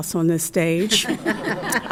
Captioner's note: chuckles